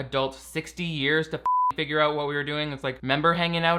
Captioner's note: beep